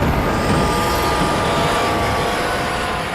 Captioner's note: roar; scream